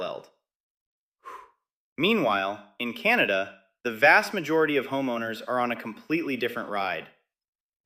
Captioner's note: exhales